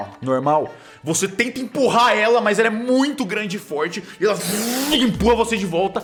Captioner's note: vuuum